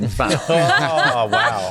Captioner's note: laughing